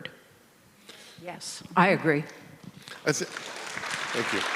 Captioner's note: audience applauding